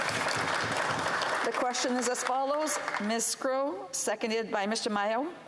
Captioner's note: some Applause